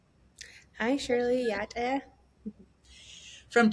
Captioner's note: speaks Indigenous language